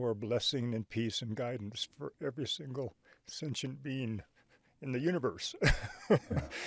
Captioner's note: chuckles